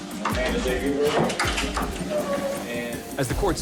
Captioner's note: clatters; whimpers